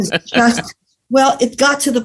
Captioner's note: laughs